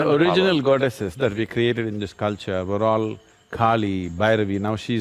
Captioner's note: laughs